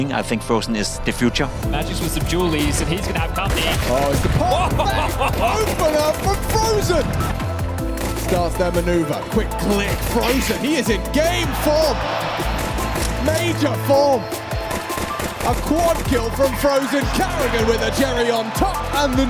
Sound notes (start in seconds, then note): 12.2 crowd cheers